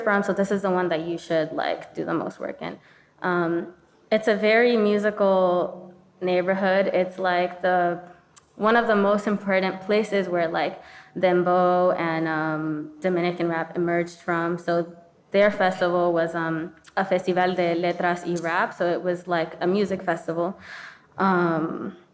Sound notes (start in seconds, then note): 16.4 speaking in foreign language